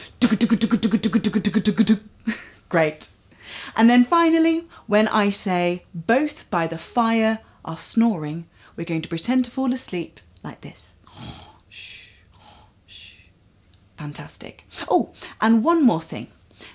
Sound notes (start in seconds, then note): 11.0 snoring